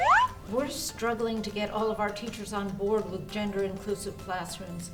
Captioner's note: slide whistle up